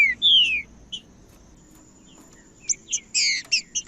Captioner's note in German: trinca ferro cantando